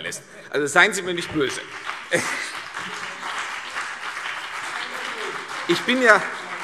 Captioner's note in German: Beifall